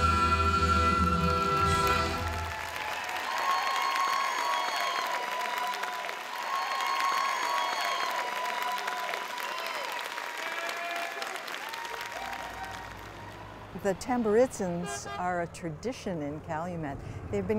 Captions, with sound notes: (audience applauding and cheering) - The Tamburitzans are a tradition in Calumet.